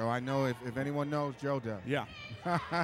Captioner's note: laughs